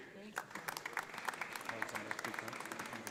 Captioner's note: audience applauding